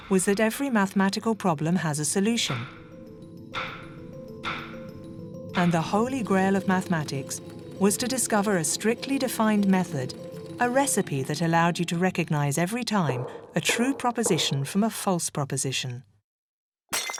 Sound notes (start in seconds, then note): 3.0 dramatic music; 3.0 thuds softly; 16.9 glass clinks